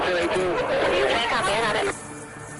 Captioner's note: police radio chatter